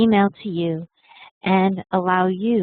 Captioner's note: Vietnamese